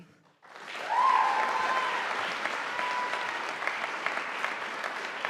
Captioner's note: audience applauding